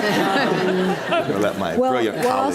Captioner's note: audience laughs